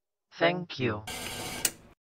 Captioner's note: static, then a click